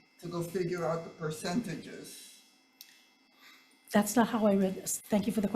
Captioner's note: none